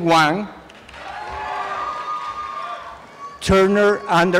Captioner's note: applause and cheering